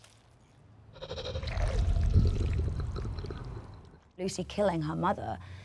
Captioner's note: body gurgling